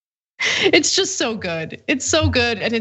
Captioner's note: laugh